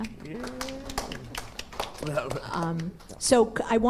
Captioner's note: applause